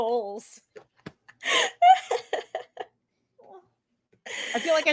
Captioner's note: laughs